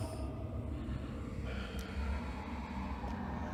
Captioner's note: quiet, ragged breathing